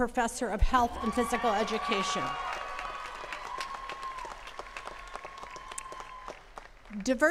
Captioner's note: attendees cheers and claps